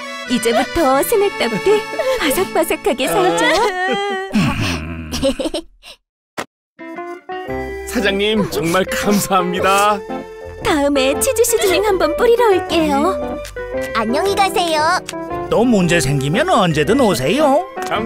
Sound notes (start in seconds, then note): 3.0 Gaedori cries; 3.0 Wilk giggles